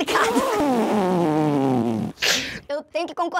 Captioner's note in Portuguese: risadas